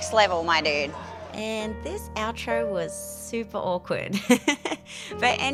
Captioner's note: laughs